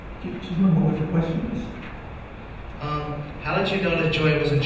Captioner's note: mumbling